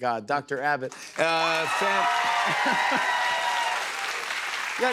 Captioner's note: cheers and applause